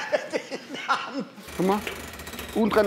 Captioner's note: Lachen